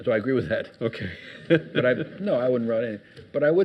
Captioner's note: laughs